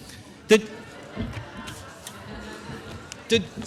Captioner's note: laughter